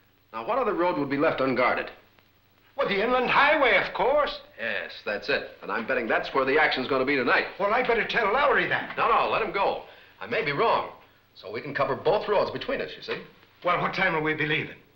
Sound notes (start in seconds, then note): none